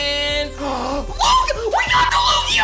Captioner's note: gasps